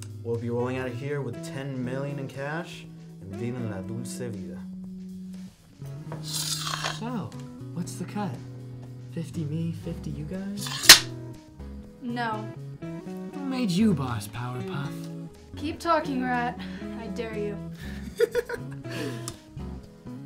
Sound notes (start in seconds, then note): 6.3 sword unsheathes; 10.6 sword slams in sheathe; 17.9 Wildcard maniacally laughs